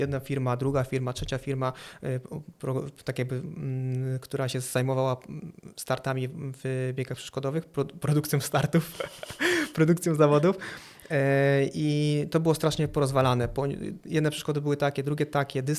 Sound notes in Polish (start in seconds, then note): 8.6 śmiech